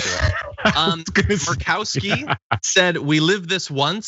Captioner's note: laugh